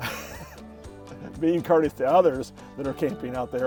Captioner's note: laughs